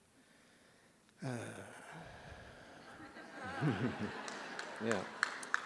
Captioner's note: laughter